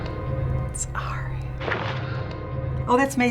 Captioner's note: whispering